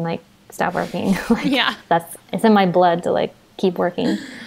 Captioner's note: she laughs